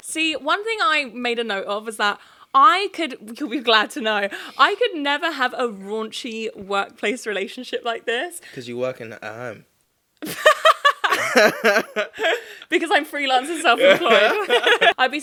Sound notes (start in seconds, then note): 10.3 laughing